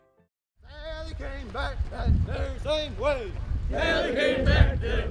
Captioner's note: marching chant